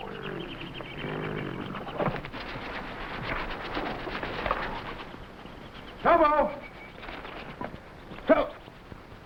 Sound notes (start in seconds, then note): 3.4 animals chattering